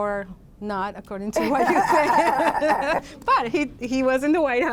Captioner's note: laughter